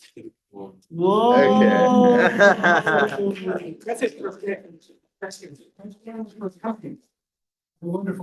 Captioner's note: laughter